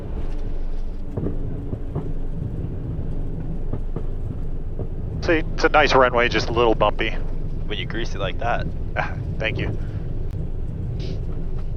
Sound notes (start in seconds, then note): 8.9 laugh